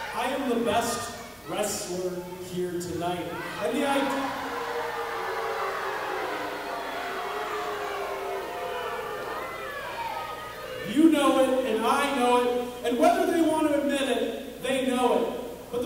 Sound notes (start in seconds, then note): 4.5 audience booing